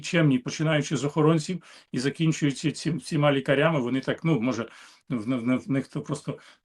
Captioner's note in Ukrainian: сопіння